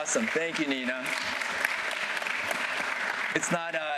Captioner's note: applause